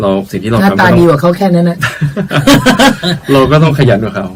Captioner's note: both laughing